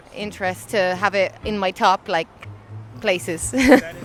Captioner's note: laughs